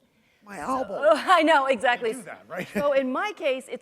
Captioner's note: chuckle